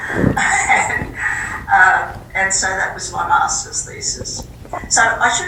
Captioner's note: laughs